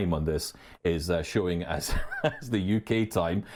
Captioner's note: chuckles